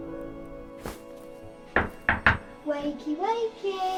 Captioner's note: hand knocking on door